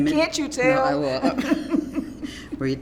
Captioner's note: laughs